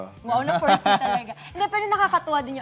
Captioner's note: laughs